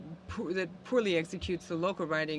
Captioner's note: speaking French